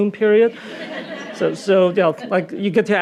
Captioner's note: audience laughing